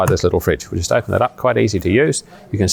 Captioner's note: lid clicks